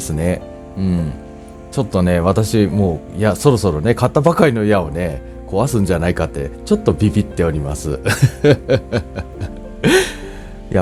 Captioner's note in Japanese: 苦笑